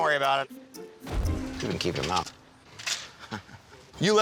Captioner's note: laughs